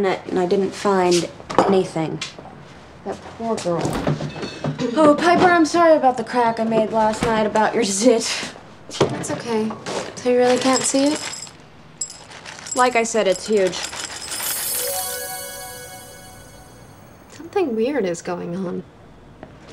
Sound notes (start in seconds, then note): 14.2 bells gently chiming